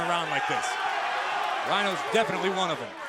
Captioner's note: crowd cheering